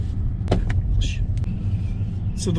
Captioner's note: car hits pot hole